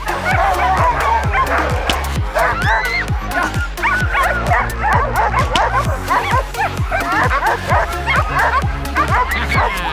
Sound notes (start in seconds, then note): 0.3 dogs barking; 3.3 dogs howling, barking; 5.7 dogs barking